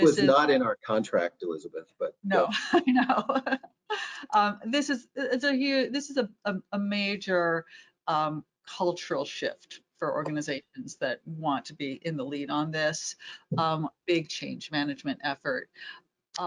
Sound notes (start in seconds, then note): 3.5 laughs